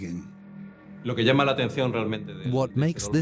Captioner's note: Spanish dubbed into English